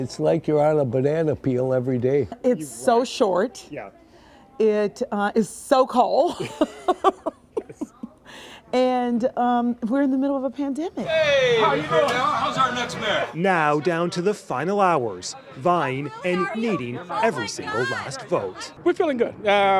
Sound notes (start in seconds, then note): 15.2 laughs